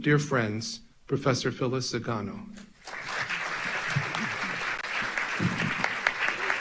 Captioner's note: audience applauds